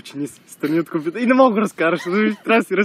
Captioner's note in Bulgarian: И двамата се смеят